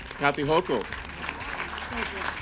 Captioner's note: group applauding